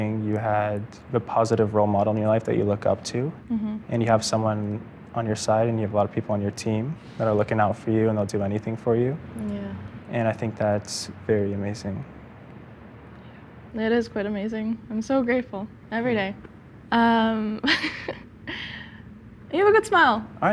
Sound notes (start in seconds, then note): 17.6 laughs